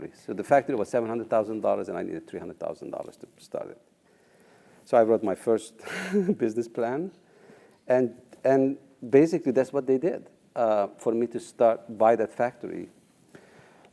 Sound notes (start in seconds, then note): 5.9 laugh